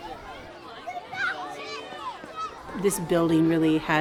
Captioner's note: kids talking